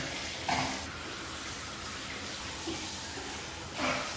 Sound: spits; shower runs

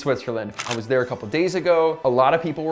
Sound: shutter snaps

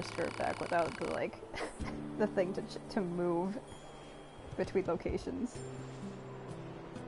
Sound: laughs

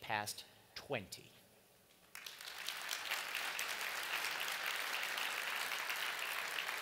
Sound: applause

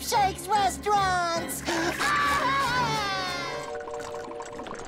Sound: screaming

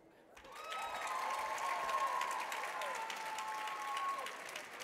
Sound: audience cheering

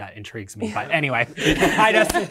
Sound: participants applauding

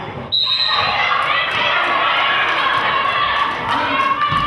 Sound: whistle blows

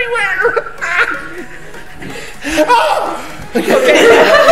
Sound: screams

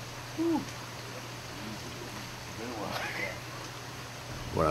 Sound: alligator wrestler sighs

